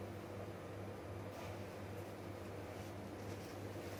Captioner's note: none